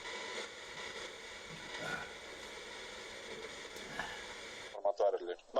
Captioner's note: radio noise